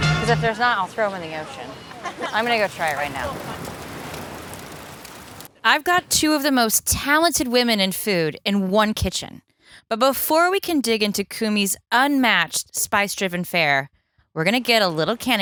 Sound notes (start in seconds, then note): 2.2 fire crackles